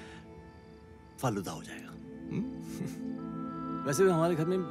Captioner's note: Chuckles